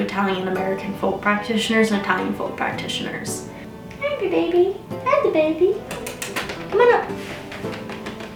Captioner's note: cat noises